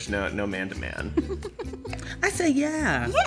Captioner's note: laughing; laughs